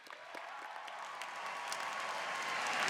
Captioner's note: applause